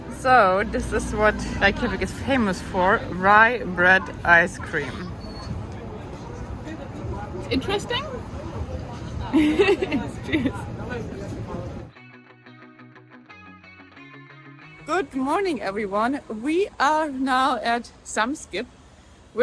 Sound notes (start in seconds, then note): 9.3 laughs; 12.2 gentle music